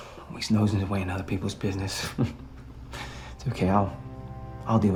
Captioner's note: chuckles